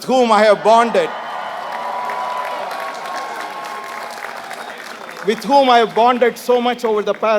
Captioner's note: applause